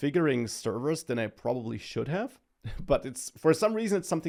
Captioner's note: laughs